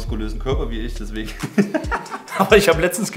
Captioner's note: both laughing